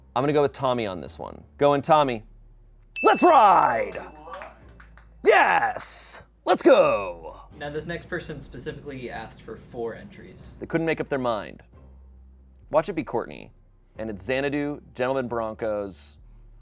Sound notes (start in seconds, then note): 3.0 bell dings